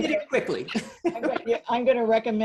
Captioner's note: laughs